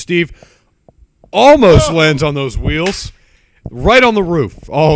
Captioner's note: clap